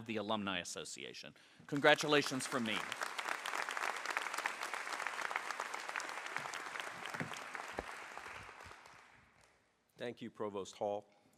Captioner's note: applause